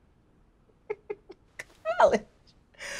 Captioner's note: chuckles